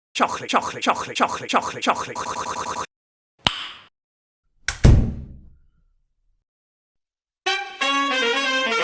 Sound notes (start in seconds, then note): 3.4 click; 4.7 door closes